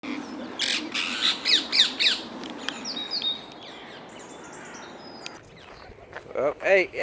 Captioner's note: parrots squawking